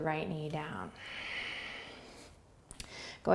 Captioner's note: exhaling